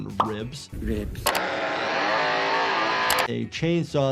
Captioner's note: chainsaw buzzing